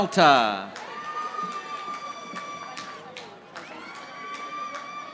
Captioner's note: audience applauding